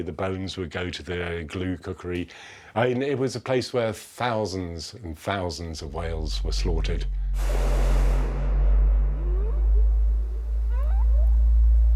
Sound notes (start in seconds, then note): 7.2 whales vocalizing; 7.6 rumbling ambient tones